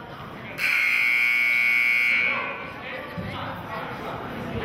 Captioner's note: buzzer sounding